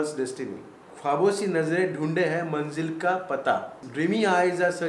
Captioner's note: speaking in Hindi